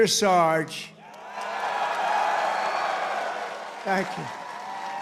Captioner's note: cheers